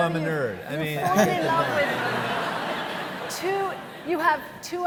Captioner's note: audience laughing